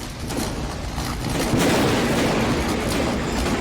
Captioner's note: explosions